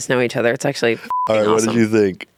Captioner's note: beep